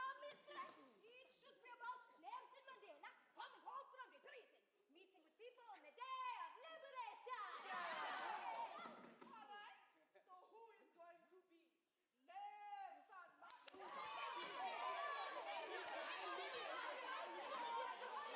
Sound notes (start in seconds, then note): 7.5 students shout in agreement